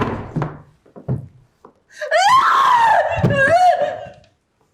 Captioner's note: Delilah skrieks